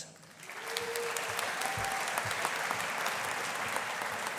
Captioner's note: audience applauding